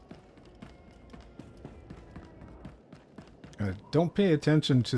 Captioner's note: footsteps